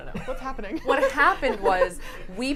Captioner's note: laughs